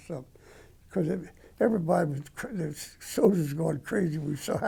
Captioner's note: stutter